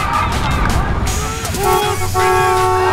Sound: tires screeching; horns honking

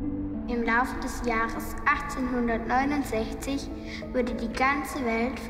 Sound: read in German by a child

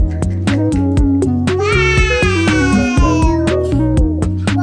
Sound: woooowwwww

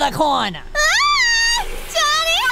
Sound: funny videos Honey Bunny shrieks

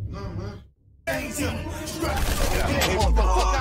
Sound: gun shots

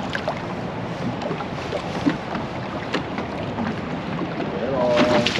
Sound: water lapping

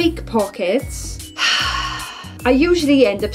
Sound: sigh

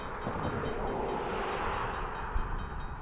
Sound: another car goes past

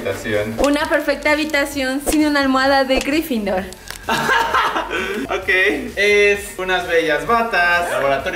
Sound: laughs

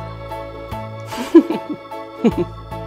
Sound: laughs

